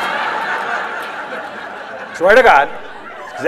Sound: laughter

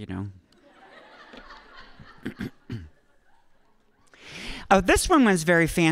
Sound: audience laughing

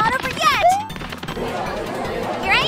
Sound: crowd chattering

